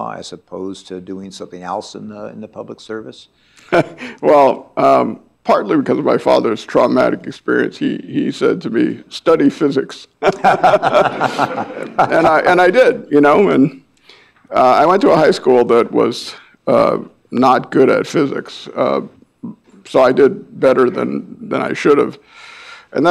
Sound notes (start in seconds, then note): 10.2 all laughing